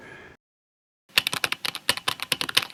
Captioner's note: keyboard tapping